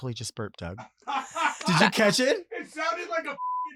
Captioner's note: laughs